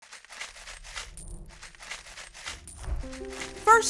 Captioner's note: loose change rattles